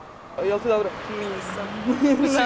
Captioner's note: speaking a foreign language